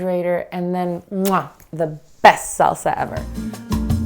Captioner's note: kissing sound